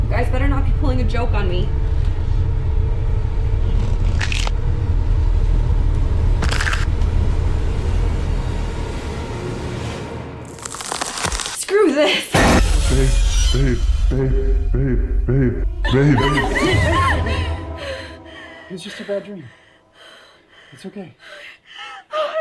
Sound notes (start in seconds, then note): 3.8 neck cracking; 12.6 jump scare music; 16.1 Kat screaming; 17.7 Kat breathing heavily